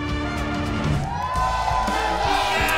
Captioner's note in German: Jubel, Applaus